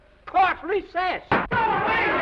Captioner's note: gavel bangs; all chattering